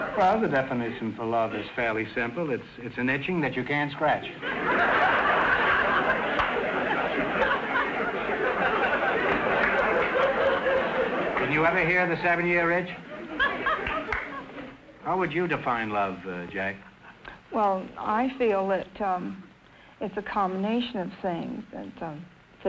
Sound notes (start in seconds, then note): 4.3 audience laughter